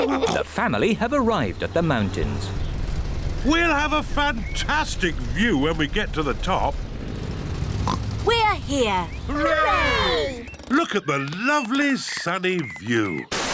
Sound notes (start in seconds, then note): 7.8 oinks